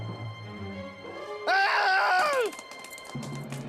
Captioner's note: yells